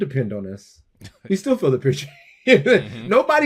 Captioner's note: laughs